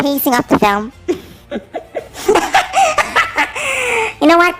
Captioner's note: laughs maniacally